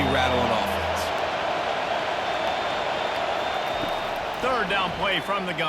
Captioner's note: cheering